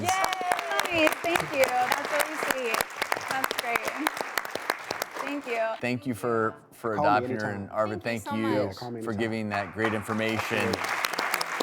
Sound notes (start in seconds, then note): 0.0 audience applause